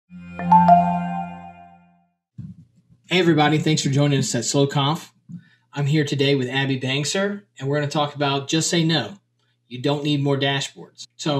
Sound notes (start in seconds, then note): 0.2 cheerful trill